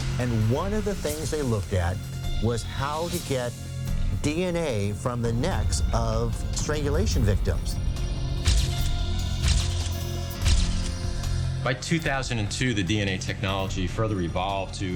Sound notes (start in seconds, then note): 8.5 camera lens shutters